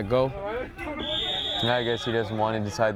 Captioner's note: whistle